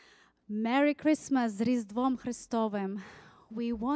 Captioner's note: speaking foreign language